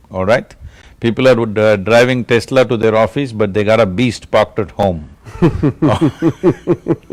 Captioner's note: laughter